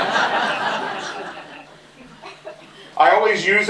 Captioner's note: laughter